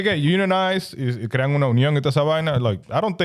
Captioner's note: speaking In Foreign Language